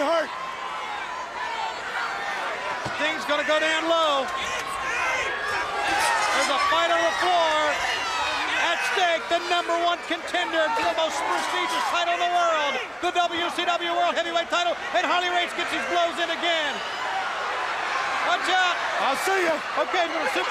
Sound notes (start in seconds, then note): 0.2 crowd chatter